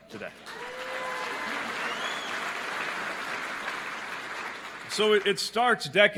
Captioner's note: applause